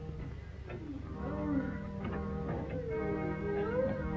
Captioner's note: moaning